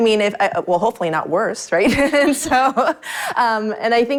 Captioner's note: laughs